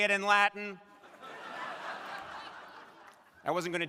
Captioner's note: crowd laughing